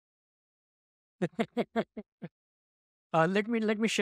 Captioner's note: chuckling